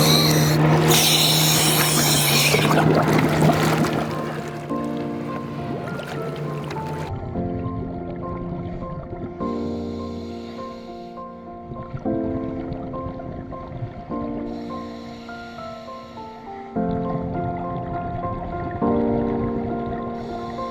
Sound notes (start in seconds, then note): 0.0 oxygen whistling; 3.3 water burbling